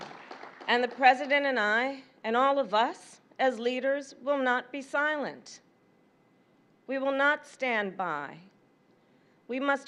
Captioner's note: applause